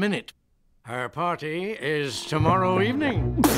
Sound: hiccupping

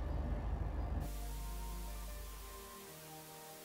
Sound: Static

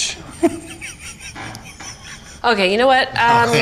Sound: giggles

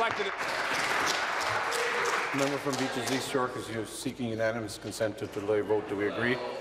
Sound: applause

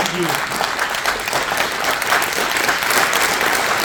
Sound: audience applauding

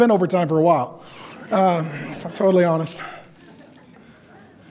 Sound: audience laughs

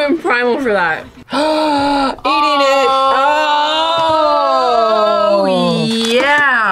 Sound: gasps

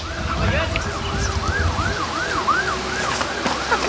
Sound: siren screams

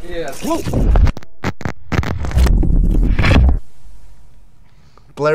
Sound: static crackles

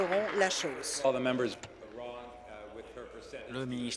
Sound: applause

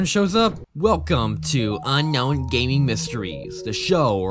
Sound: 15 year old nerd voice

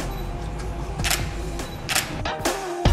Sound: camera clicking; upbeat music

